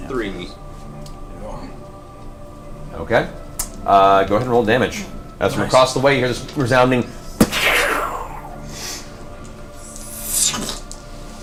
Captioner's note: gunshot